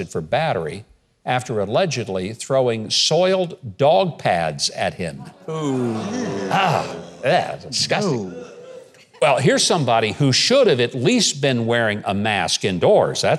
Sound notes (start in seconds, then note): 5.2 crowd bursts in disgust